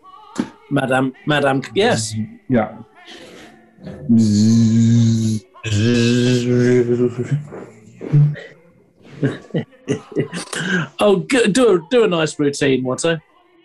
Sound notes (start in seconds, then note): 3.8 buzzes; 9.0 chuckling